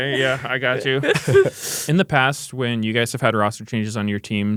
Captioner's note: laughs